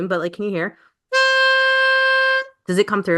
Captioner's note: horn honking